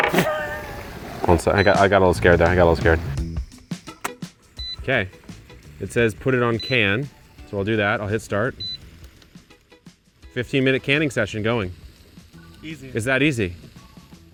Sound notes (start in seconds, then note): 0.0 appliance beeps; 0.2 chuckles; 0.2 regulator thuds; 4.8 appliance beeps; 9.3 appliance beeps